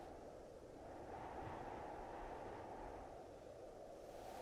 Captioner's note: wind humming